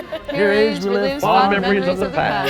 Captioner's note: group In Unison